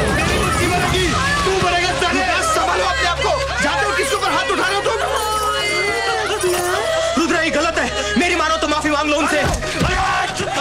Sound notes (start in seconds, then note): 5.2 Crying